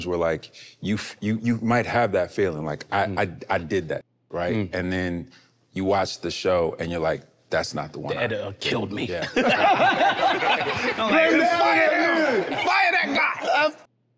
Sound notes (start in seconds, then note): 9.3 laughing amusingly; 9.3 everyone laughing amusingly